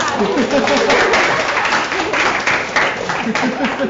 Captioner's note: laughter; applause